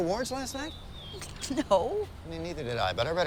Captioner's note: snickers